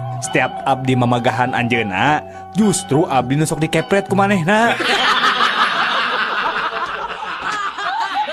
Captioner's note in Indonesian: tertawa